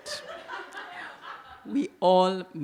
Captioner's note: audience laugh